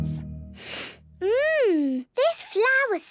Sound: sniffs

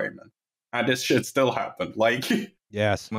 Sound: short laugh

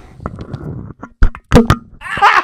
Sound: microphone thuds; laughing

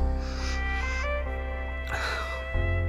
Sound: whimpering

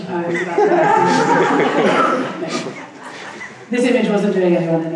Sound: laughing

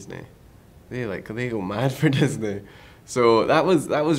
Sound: laughs

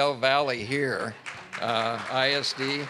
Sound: audience clapping

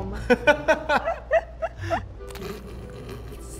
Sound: laughing

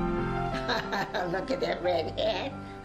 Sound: laughs

